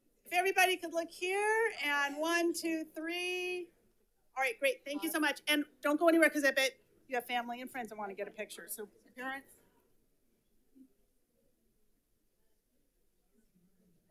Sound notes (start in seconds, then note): none